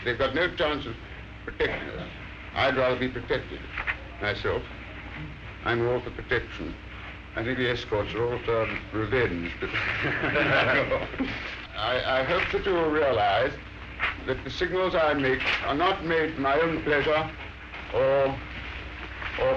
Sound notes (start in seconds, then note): 9.6 men laughing